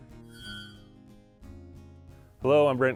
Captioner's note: logo chiming